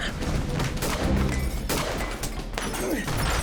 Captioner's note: gunfire; grunting, gunfire; gunfire